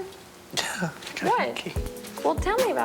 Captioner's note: chuckles